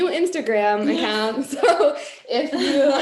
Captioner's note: laughing